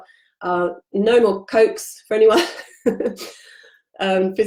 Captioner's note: giggling